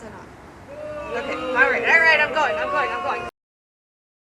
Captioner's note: boos